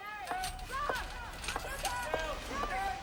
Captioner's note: staff shouting